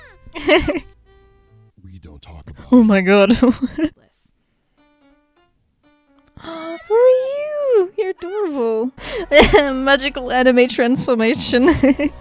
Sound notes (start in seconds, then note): 0.3 laughs; 6.2 gasps; 11.4 laughs